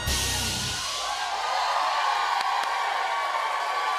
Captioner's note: cheers and applause